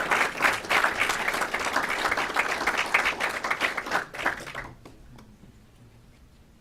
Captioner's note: clapping